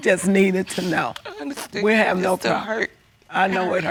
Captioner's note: sniffles